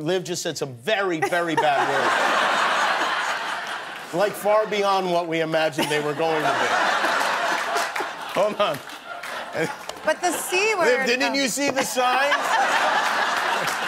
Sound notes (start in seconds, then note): 8.6 laughter; 11.7 laughter